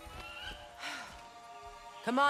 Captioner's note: sigh